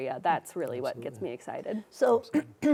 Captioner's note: clears throat